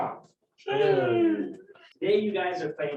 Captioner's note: cheers